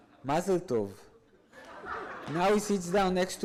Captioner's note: audience laughs